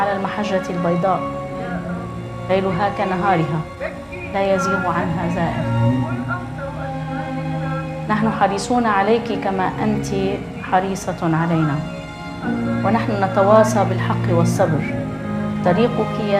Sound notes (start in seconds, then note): 6.5 poignant music; 8.4 speaking in foreign language